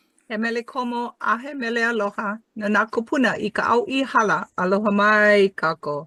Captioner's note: speaking in Hawaiian